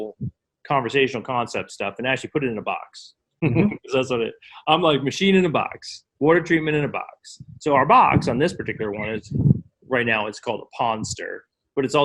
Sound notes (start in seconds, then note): 3.4 laughs